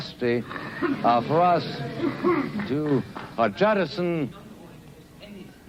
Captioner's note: crowd murmurs